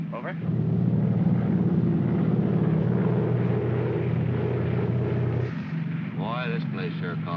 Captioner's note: aircraft rumbles